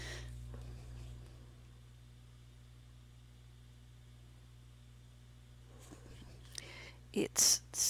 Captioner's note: long pause